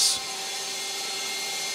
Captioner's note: saw noises